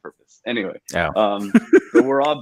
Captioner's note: laughs